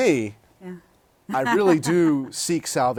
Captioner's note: laughter